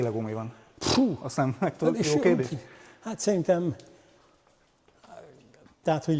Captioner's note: snorts